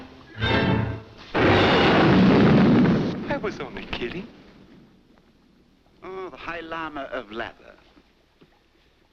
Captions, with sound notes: [thunder] I was only kidding. Oh, the high lama of lather